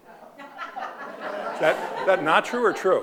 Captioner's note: audience laughing